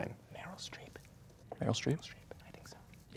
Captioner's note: whispering; quietly